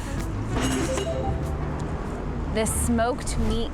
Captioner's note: upbeat tone chimes